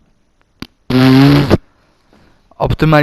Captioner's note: mouth fart